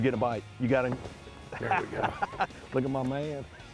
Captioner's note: laughter